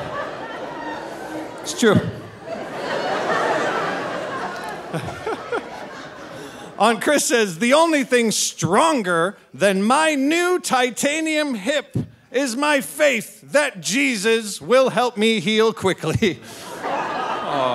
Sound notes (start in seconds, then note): 2.9 audience laughing; 4.9 laughing